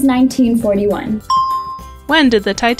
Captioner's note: bell rings